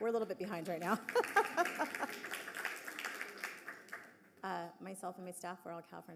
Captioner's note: audience clapping; laughing